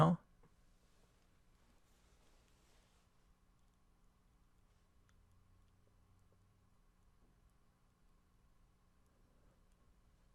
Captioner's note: pause